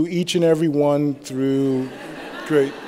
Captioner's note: laughter